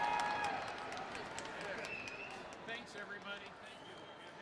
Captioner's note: cheers and applause